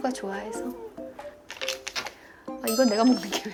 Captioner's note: rummaging around